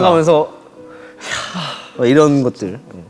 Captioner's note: deep sigh